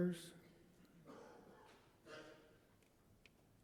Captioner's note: person coughs